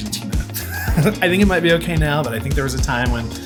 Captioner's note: laughs